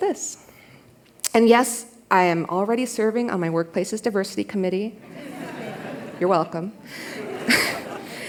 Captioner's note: laughter